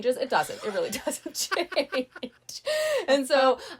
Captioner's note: laughing